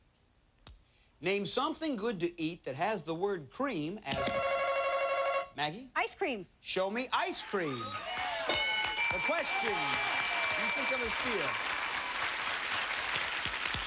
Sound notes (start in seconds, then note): 9.1 cheers and applause